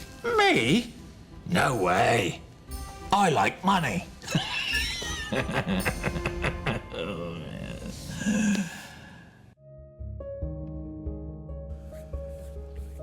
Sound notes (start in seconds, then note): 4.3 laughs; 9.5 slow tempo music